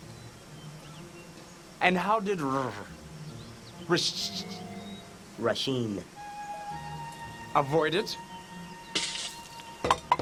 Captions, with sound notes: - And how did r-r-r-r Rah-sh- - Rah-Sheen. - Avoid it? (tapping cup)